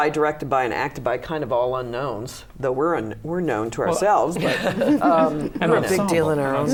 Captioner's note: laughter